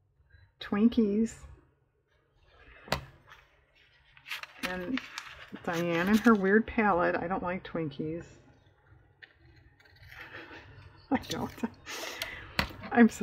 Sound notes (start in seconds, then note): 10.2 laughs